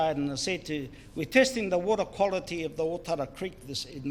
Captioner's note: none